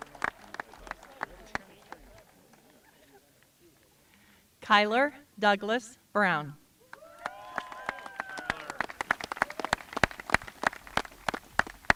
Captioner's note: applause